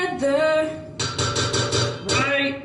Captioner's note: hits bowl several times